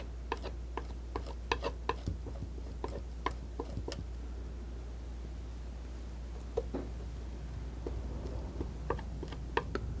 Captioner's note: scratching